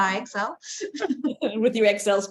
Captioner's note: everyone chuckling